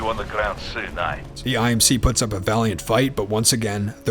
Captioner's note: voiceover